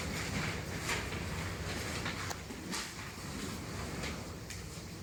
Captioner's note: papers rustling